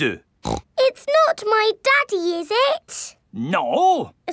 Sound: snorts

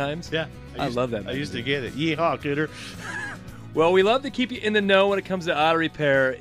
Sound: laughs

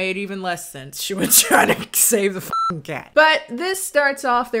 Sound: beep

